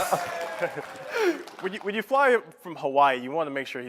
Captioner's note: applause